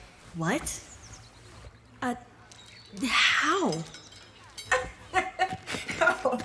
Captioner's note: laughing